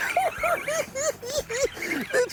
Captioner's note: cackling